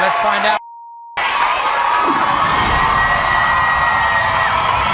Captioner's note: audience cheering